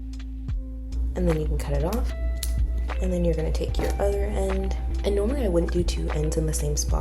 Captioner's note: scissor cuts